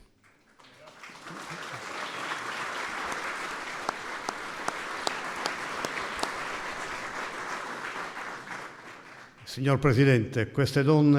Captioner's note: applause